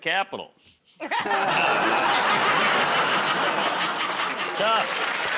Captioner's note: laughter, groaning